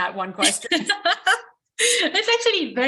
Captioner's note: laughing